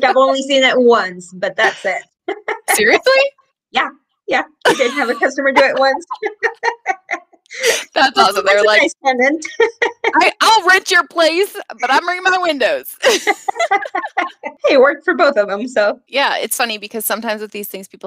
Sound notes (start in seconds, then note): 6.4 laughing